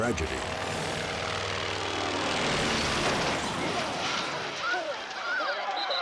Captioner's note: aircraft humming and crushing